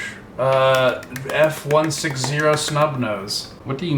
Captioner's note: light applause